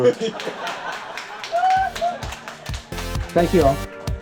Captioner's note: audience laughing